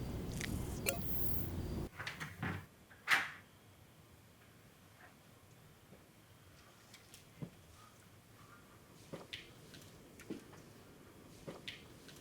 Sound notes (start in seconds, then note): 0.1 digital clicks; 1.7 door quietly opening; 8.7 careful bootsteps